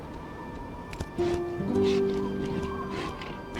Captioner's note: feet padding; raptor panting